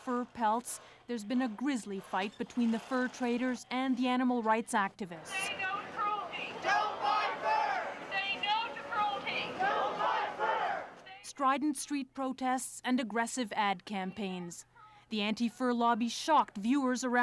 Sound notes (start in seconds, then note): 7.8 crowd chanting; 10.3 chanting